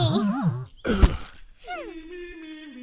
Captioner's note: Mirror groaning; male singing